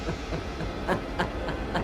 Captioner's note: evil laughing